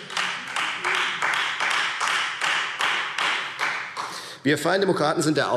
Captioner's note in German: Beifall Freie Demokraten